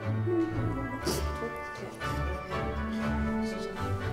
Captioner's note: humming